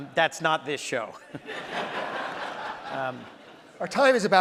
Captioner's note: audience laughs